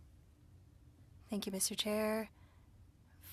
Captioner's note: speaking french